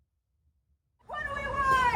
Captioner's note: chanting